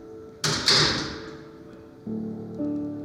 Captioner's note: door closes